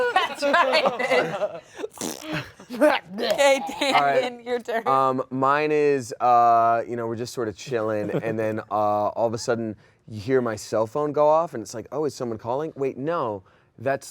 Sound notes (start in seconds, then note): 1.9 blows raspberry